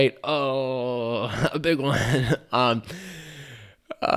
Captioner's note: groans